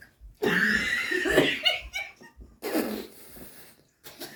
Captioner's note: audience laughs